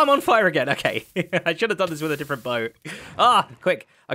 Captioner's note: chuckles